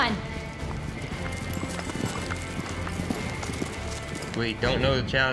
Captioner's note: hoofbeats